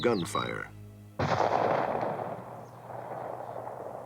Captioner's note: gun fires